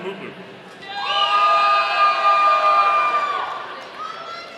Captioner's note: audience cheering